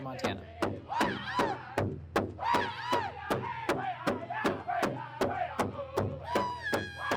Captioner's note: drum beating; group chanting